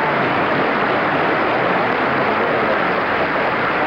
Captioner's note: applause continues